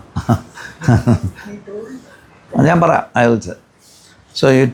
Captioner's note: laughter